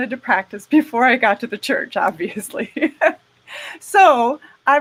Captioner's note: laughing